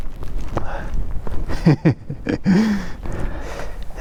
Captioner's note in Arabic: يضحك